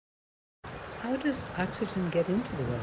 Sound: water rushing

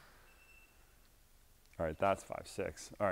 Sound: meter beeps

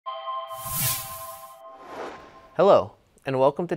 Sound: swoosh

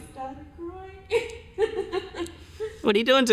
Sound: laughs

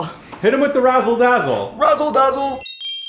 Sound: chimes chime

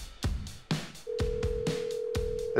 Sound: call ringing through

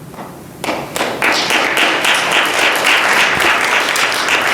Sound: audience applauding

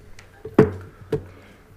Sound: gavel hitting dais

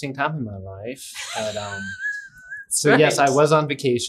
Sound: laughs

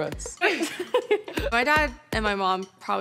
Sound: girls laugh

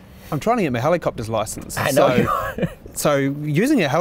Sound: laughs

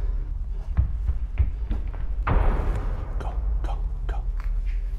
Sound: loud footsteps echo

